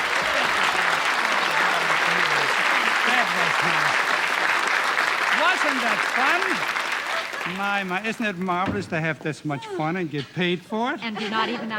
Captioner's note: applause